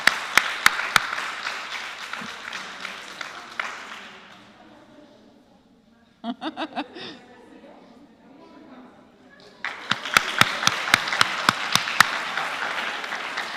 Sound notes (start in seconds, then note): 0.0 applause; 7.8 laugh; 12.3 applause